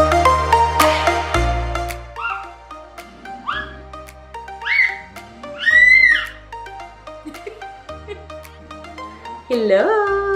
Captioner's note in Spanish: Aplausos